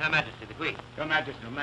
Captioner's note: none